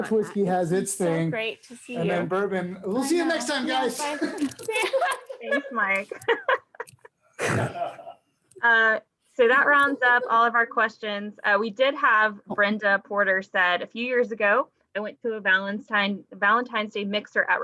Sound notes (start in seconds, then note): 4.0 both laugh; 7.4 laughs; 7.6 snorts